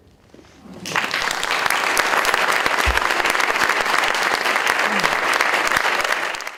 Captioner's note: applause